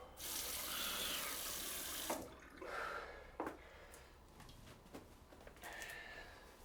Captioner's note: Addison inhales sharply; water rushing